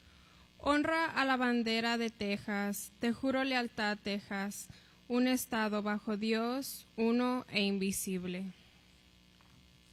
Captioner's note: tex flag pledge in spanish